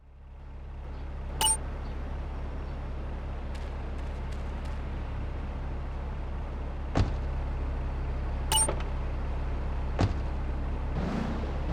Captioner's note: tires screeching